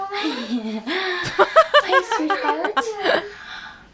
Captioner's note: chuckles